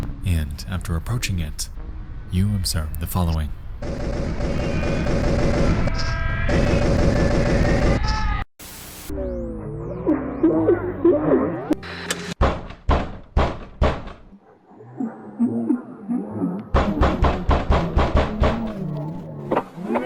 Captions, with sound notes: And after approaching it, you observe the following. (gun firing) (static hissing) (knocking on door)